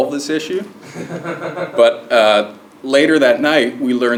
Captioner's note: laugh